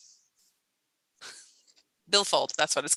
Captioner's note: chuckles